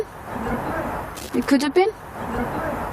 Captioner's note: disembodied Voice